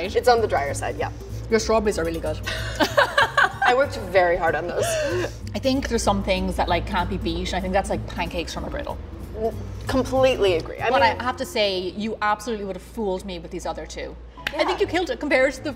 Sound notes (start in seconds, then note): 3.2 laughs